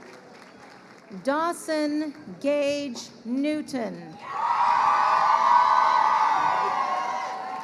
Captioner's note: crowd cheering